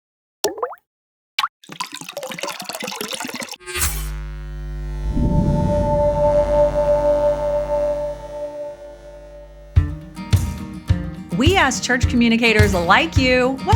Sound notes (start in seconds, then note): 0.4 water droplet plops; 1.6 water gurgling; 3.6 logo buzzing; 9.7 cheerful music